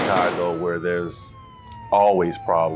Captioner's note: gunshots shooting; police siren blaring